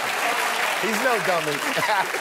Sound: laughter and applause

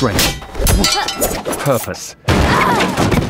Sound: yells; boy grunts

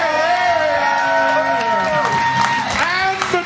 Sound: cheers & applause

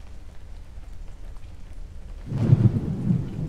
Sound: thunder

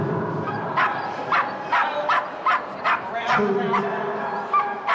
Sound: Posh barking

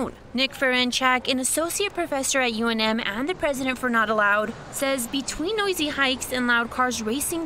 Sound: nats of loud cars

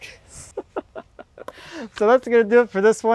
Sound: laughs

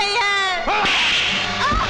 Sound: slap

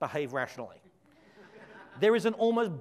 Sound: audience laughs

